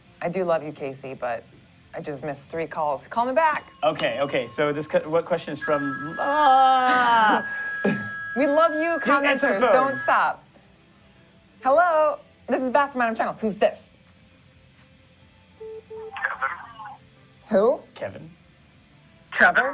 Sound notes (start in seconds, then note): 6.2 ring